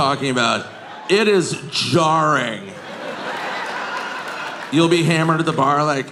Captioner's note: audience laughing